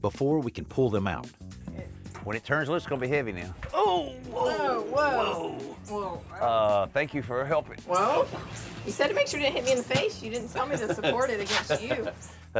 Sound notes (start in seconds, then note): 3.9 grunts